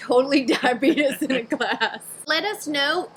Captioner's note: laughing